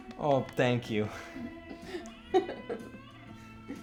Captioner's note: chuckles; laughs